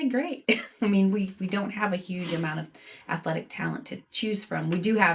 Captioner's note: chuckles